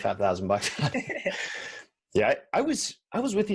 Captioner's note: they laugh